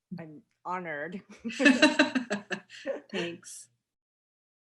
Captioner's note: both laugh